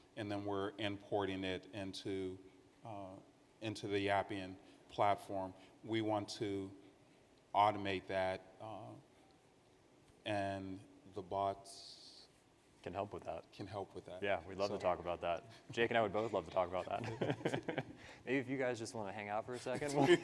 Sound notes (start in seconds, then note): 16.1 participants laugh